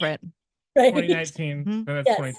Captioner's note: chuckles